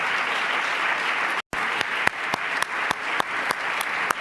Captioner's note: applause